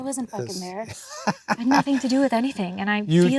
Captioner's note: Adam laughs